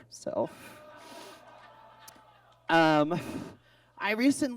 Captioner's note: audience laughs